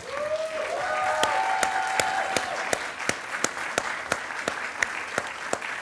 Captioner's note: attendees applauding and cheering